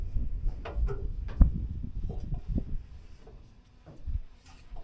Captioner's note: footsteps on ladder